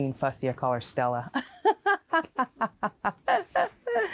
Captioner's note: laughs